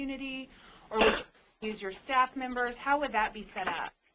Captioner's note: cough